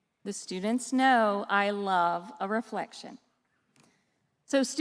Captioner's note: none